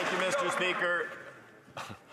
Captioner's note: some Applause